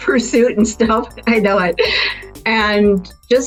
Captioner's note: laughs